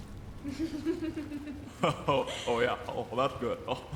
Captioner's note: Sargon and woman laughing